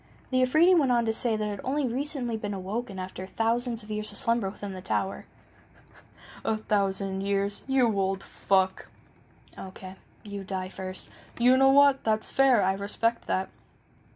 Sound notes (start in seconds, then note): 5.5 chuckling